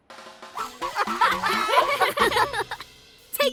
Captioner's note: giggling